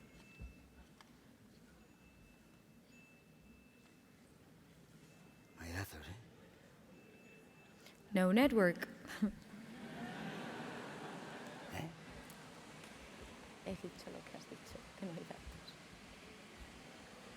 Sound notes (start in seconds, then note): 9.1 laughter; 13.7 speaking spanish